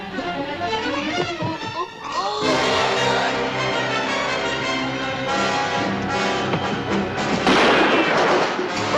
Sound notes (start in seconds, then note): 2.1 groaning; 7.4 gunshot